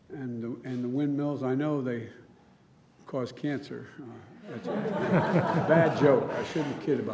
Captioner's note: laughter